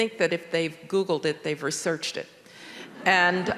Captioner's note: audience laughing